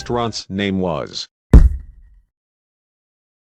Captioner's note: muffled bang